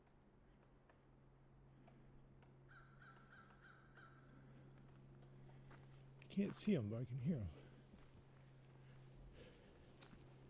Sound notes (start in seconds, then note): 2.7 bird caws